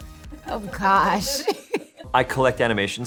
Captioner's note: laughs